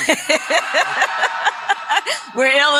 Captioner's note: laughter; applause